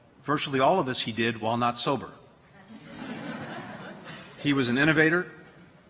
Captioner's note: laughter